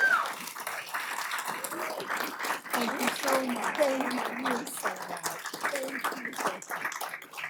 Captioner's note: applause